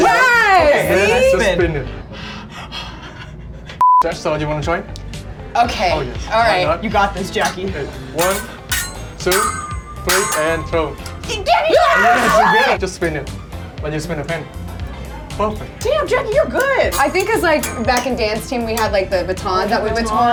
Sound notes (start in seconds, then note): 2.2 excited panting; 3.8 beep